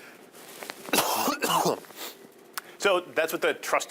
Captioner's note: coughing